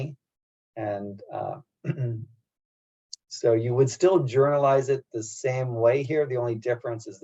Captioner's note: cough